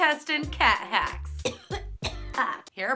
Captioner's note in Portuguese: tosse